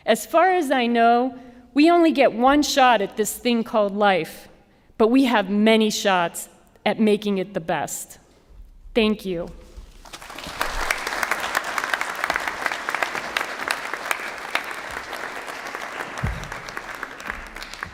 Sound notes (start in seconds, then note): 10.0 applause